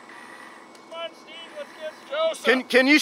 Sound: murmurs

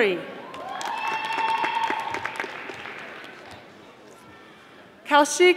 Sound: audience applauding

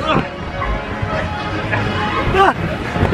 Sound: grunts; inflatable ruffling

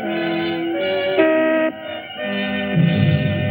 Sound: horn honks

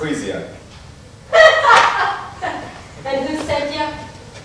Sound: laughing

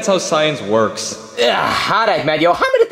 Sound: Luigi grunting

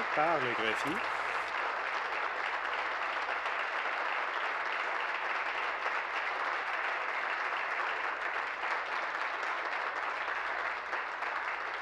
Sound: applause

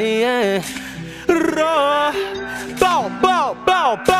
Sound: tongue rolling

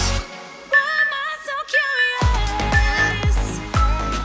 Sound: beeping sound

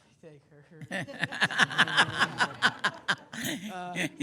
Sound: laughs

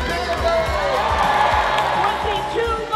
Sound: cheers and applause

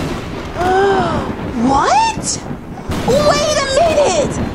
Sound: gasps

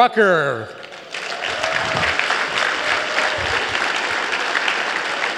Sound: applause

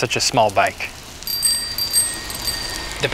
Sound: bell dinging

